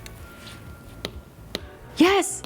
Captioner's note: tapping on iPad